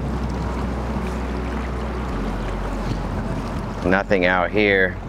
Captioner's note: water sloshing